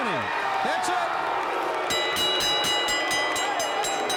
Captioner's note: bell dinging